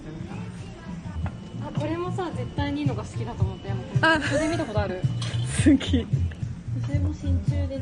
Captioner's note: laughs